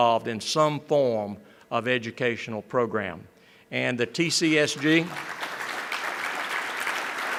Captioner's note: applause